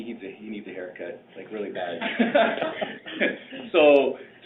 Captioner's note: laughing